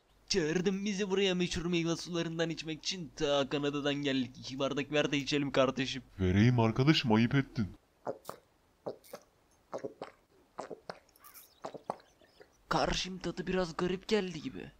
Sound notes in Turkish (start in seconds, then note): 7.8 Meyve suyu içerken boğaza çarpma sesleri ve yutkunma sesleri